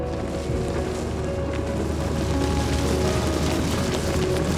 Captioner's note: engine rumbling